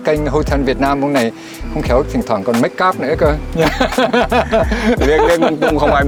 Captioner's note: laugh